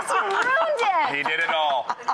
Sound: laughs

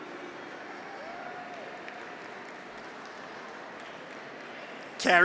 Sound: audience applauds; graduates cheer

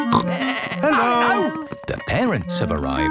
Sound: school bell ringing

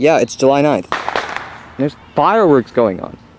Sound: fireworks exploding

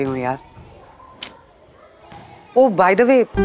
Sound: scoffs

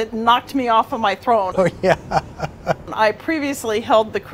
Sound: laughs

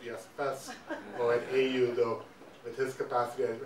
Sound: audience laughing

